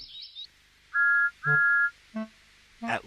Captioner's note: Thomas peeps